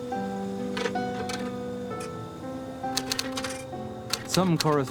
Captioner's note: typewriter keys clacking